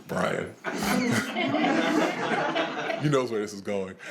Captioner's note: attendees laughing